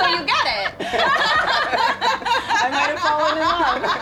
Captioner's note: all laugh